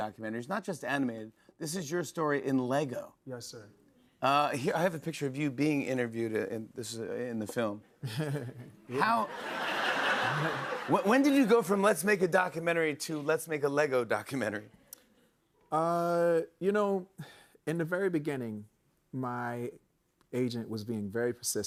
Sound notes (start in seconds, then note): 8.0 laughter; 8.0 chuckles